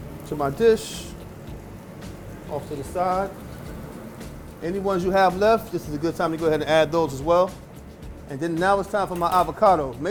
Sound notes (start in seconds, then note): 1.8 sizzling food